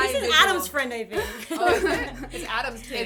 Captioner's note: laughter